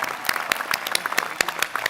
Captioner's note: applause